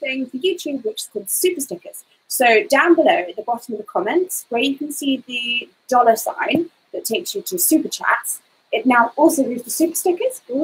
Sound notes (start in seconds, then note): none